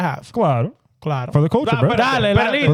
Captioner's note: speaking In Foreign Language